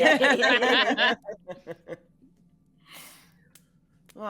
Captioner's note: all laughing